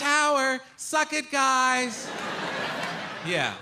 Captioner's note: audience laughing